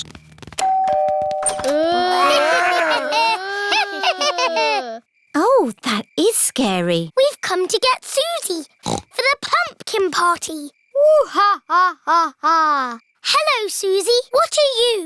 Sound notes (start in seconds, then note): 0.6 door bell ringing; 1.8 cackling, growling, groaning; 8.8 snorts